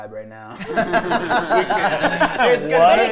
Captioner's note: players laughing